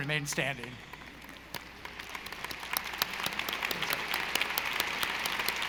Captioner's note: audience applauding